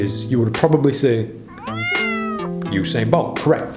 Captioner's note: Charlie meowing